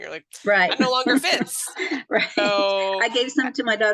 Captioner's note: laughs